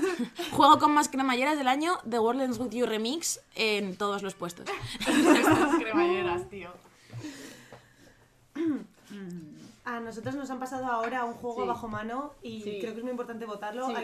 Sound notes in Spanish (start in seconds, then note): 4.7 risas